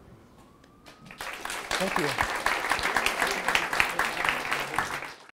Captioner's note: audience applauds